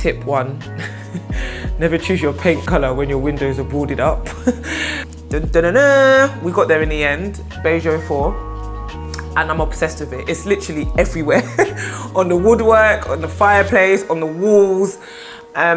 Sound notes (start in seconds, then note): 4.3 laughing; 5.2 humming a fanfare